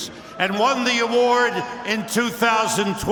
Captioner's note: cheers and applause